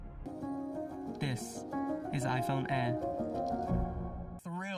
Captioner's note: voiceover